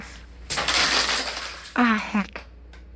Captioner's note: skittles scatter onto the floor